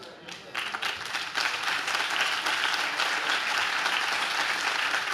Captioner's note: audience claps